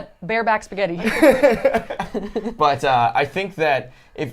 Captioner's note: laughing